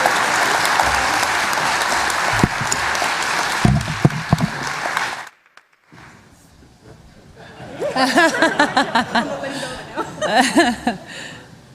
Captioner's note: applause